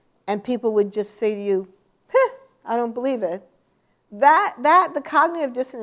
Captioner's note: scoffs